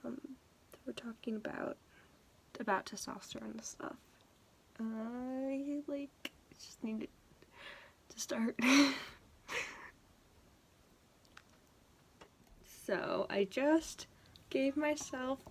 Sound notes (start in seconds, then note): 9.5 laughs